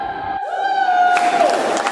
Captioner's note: Jad exclaiming in excitement; people applauding